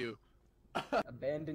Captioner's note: laughs